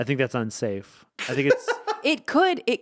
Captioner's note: laughing